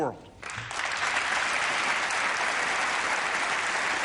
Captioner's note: applause